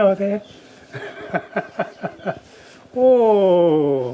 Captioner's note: laughs